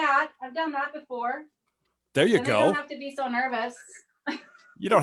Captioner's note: chuckles